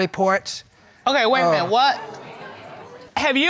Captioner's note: audience exclaiming